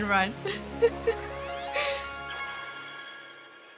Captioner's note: laughs